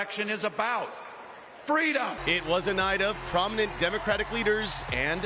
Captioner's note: cheering and applause